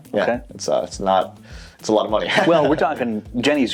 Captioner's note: laughing